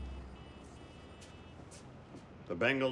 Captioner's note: traffic roaring outside